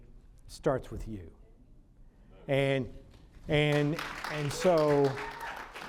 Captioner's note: applause